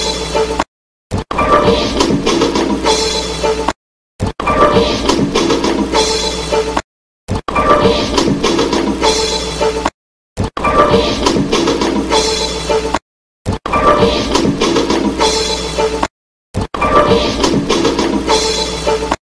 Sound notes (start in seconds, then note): 0.9 whooshing and music continuing